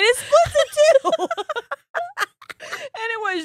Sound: both laughing

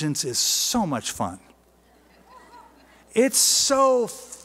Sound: laughter

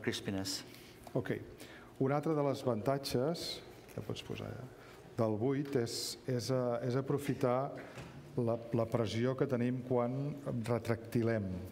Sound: speaking catalan

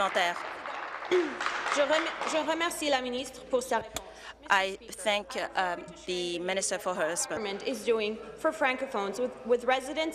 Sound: applause

